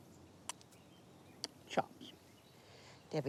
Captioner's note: spits